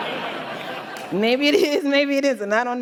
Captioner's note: laughter